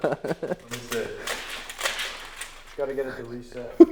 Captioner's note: laughs; tape clicks